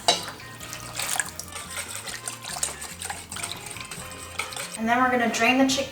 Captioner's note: pouring and whisking sound